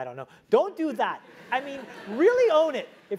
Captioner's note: laugh